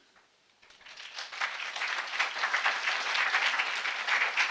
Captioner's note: audience applauding